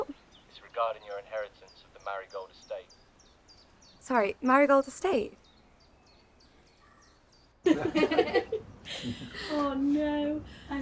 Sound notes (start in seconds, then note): 7.6 people laughing